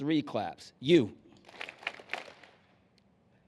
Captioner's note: clapping